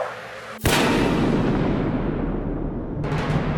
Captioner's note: heavy bang